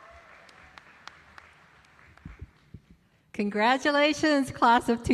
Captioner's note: applause